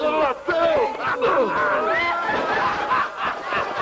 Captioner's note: laughing